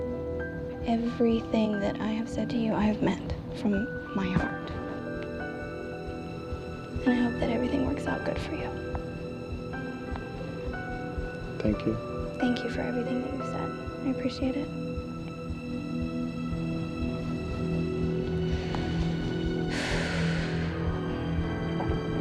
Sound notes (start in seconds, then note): 19.6 sighs